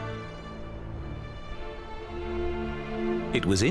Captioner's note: wind whistling